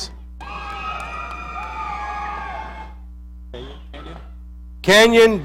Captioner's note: audience cheering